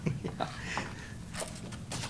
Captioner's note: laughs